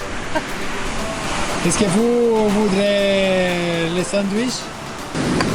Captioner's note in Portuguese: calando francês